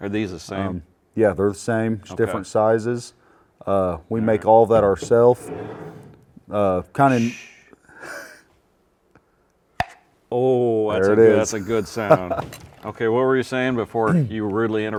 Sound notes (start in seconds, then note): 9.8 jar pops